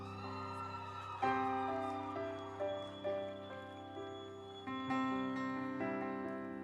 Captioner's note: audience cheering; instrumental music